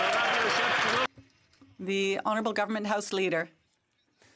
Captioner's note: some Applause